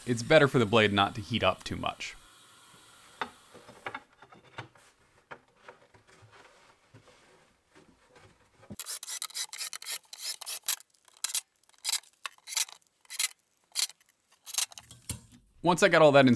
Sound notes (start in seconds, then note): 5.7 sped up Impact Drill Sounds